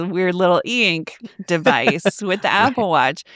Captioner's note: laughs